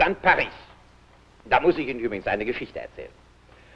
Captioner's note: foreign language